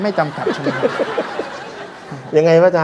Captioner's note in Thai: หัวเราะ